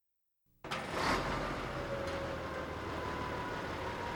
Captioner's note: truck starts up